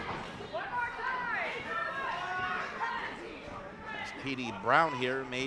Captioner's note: crowd heckling